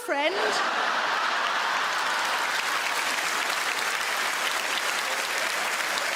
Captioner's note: audience laugh; audience clap